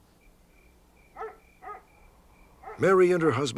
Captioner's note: dog barking